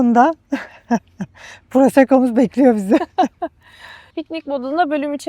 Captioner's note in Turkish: kahkaha